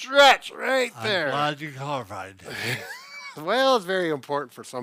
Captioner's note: laughs